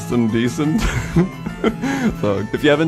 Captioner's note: laughs